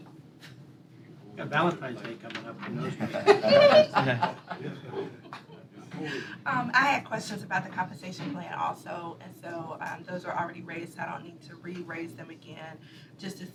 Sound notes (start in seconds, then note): 5.7 laughter